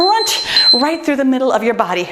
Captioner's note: timer beeps